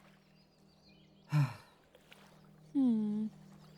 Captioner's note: sighs